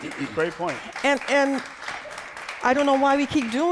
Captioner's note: applause